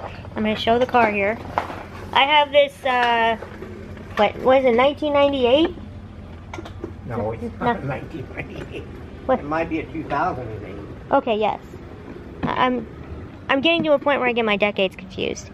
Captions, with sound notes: I’m going to show the care here. I have this uhh... what is it? 1998? (laughing) no, it’s not a 1998 It might be a 2008 Okay, yes, I'm I'm getting to a point where I get my decades confused